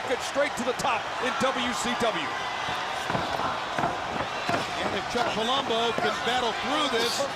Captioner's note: crowd chatter